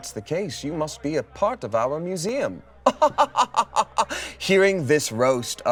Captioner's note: laughs